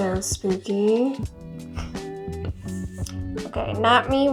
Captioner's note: laughs